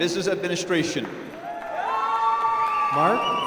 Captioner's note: applause